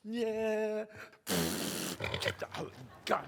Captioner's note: blows raspberry